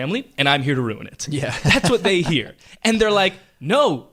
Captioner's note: laughs